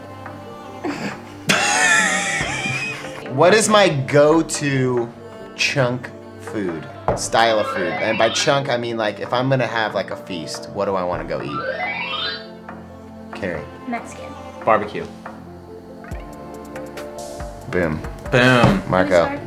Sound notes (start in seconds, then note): 0.9 laughs